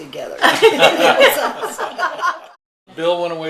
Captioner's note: laughing